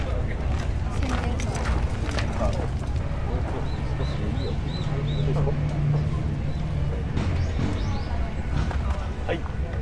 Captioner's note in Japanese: エンジンの音